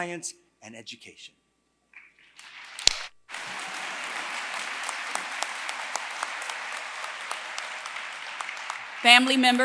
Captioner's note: applause